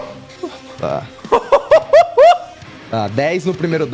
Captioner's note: impressed laugh